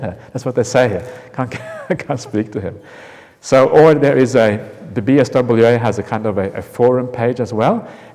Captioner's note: chuckle